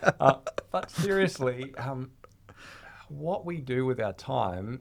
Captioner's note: laughing